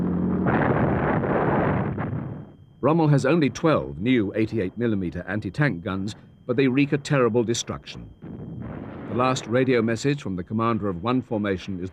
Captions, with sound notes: (explosion) Rommel has only 12 new 88 millimeter anti-tank guns, but they wreak a terrible destruction. The last radio message from the commander of one formation